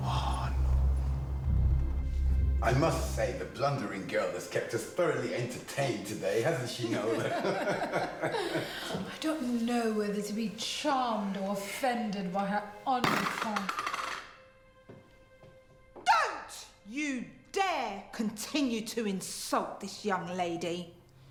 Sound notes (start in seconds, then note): 0.1 kidnapper sighs; 6.8 guests laughing; 13.0 item clattering